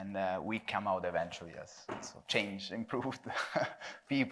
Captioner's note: chuckles